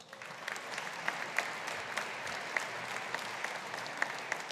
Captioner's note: audience applauding